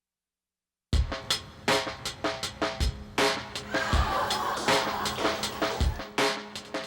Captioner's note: contestants laughing; soft expectant music